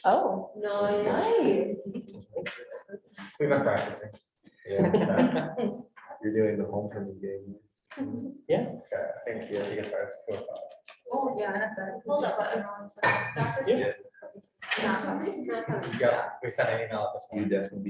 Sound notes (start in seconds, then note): 11.7 all chattering